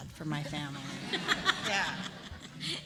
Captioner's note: laughter